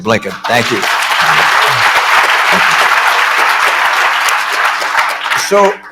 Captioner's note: applause